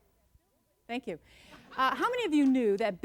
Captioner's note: light audience laughter